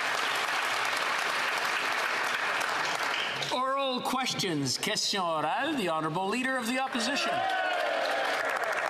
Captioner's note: applause